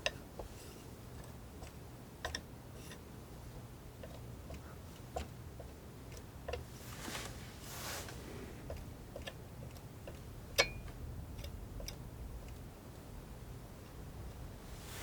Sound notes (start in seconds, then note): 1.3 clinking